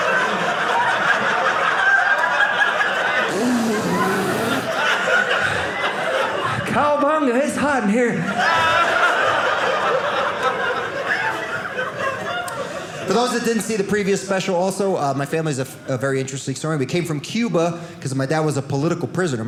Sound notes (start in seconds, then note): 0.0 audience laughing; 8.2 audience laughing